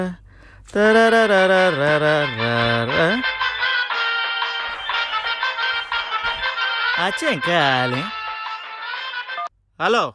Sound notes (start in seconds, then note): 1.6 phone rings